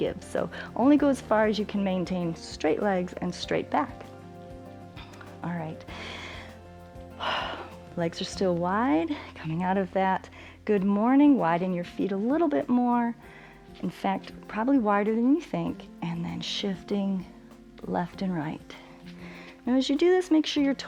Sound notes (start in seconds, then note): 5.8 inhales and exhales